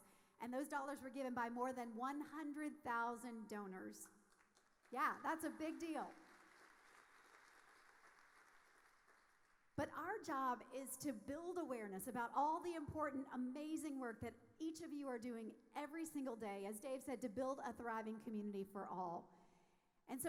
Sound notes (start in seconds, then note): 6.1 audience applauding